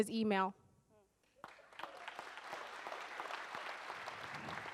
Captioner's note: audience applauds